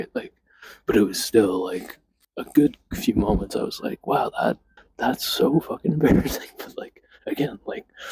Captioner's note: laughs